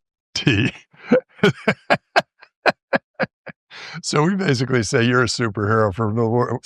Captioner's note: laughter